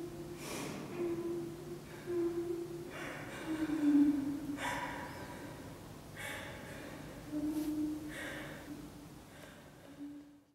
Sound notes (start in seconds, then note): 2.9 crying softly